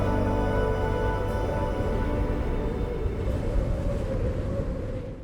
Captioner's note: wind blowing